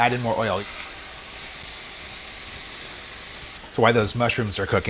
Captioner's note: sizzling